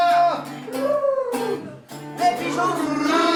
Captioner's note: cooing